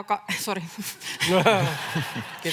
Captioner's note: naurahtaa